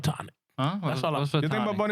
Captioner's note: speaking In Spanish